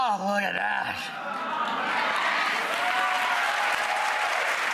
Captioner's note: applause